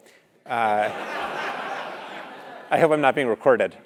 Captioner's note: laugh